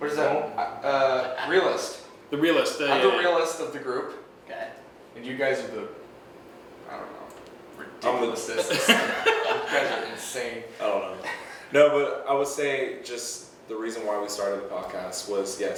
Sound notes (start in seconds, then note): 8.6 laughing